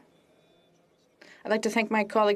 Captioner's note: speaking French